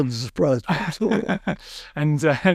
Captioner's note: chuckles